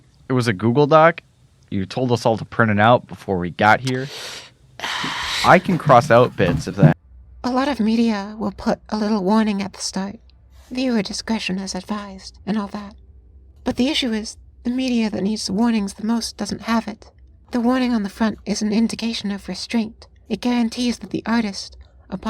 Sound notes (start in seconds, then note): 4.8 noise of disapproval; 7.0 tape is cut off abruptly